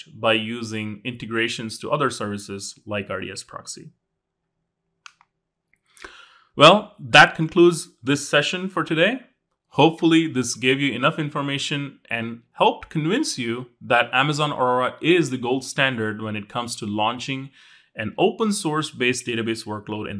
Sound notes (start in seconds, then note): 5.0 remote clicking